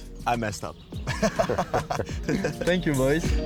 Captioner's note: laughing